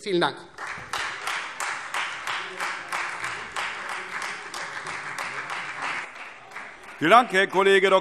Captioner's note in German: Beifall Freie Demokraten